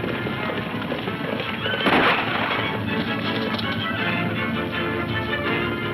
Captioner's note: gun firing; dramatic music